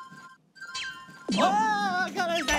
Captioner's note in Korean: 우르르